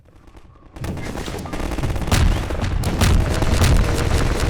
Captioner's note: loud gunfire